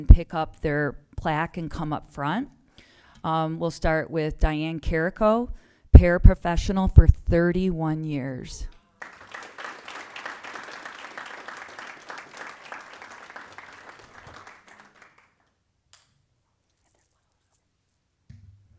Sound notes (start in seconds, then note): 9.0 applause